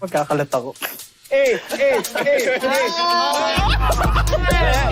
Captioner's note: chuckling